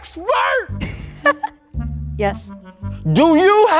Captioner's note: laughs